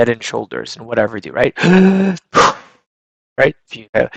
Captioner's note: inhales and exhales